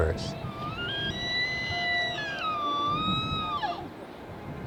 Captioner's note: elk squealing